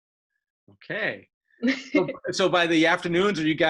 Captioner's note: laughs